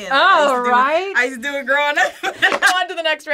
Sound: laughs

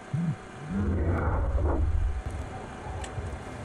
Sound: an earth-shaking crash somewhere outside; monstrous sounds

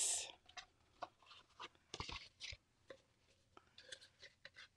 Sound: paper rustles

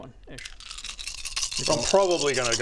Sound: death rattle

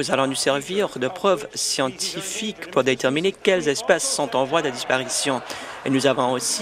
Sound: laughter

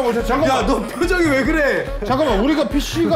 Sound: laughs

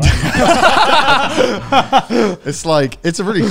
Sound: all laughing

